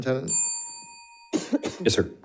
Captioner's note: bell dings